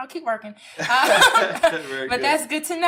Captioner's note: laughter